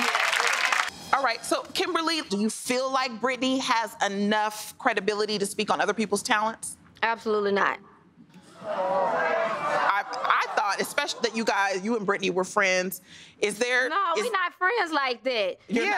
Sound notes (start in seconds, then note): 0.0 crowd clapping; 7.9 audience gasps